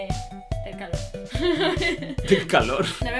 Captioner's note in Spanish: Risas